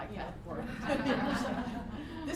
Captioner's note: laughter